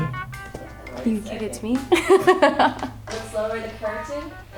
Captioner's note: laughs